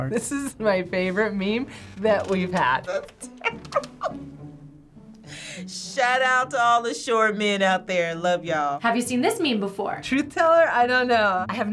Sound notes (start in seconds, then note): 3.2 laughs